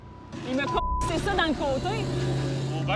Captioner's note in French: bip